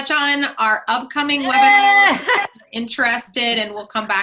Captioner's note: yelling